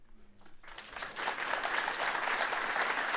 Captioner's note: applause